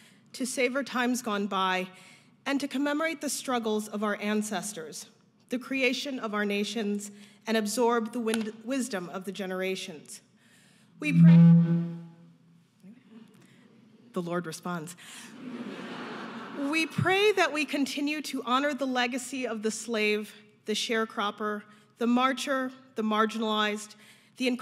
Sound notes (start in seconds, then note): 11.0 mic squealing; 15.4 audience laughing